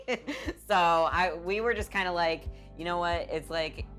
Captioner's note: laughing